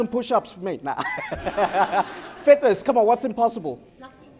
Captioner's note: laughter